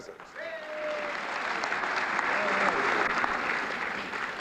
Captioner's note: applause